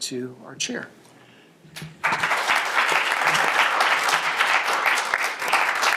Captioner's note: applause